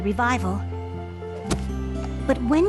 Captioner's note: book shuts